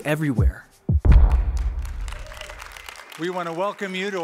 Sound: applause

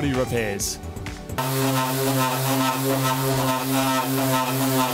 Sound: rhythmic sanding and whirring

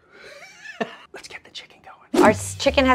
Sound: laughing

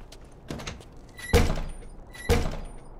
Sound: door creaks, bangs something solid

